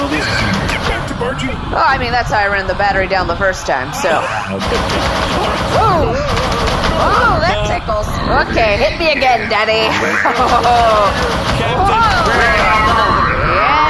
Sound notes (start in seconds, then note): 0.2 exhales loudly and sensually; 7.1 more sex gun blasts; 12.7 laughing